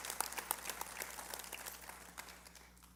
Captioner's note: applause